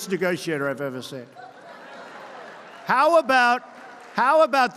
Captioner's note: laughter